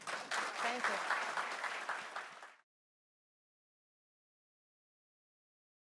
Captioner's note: applause